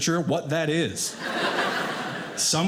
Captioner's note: audience laughing